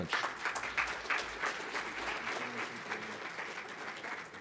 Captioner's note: audience applauding